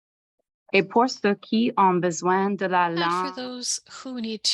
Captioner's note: French